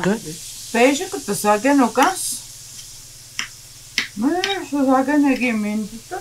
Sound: speaking in foreign language

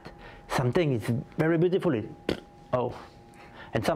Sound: blows raspberry

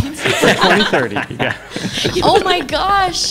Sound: laughs

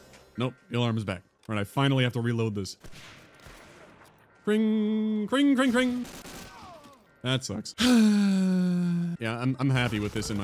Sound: sigh

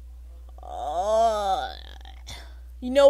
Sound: moans

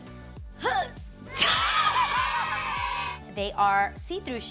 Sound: kids cheering

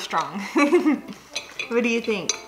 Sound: giggles

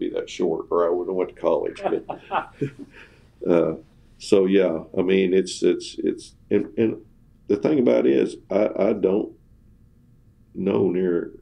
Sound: laughs

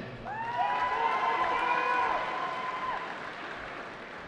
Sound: cheering

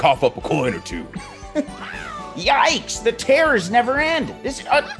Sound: laugh

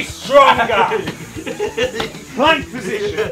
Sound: group laughing

